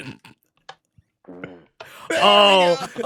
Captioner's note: fart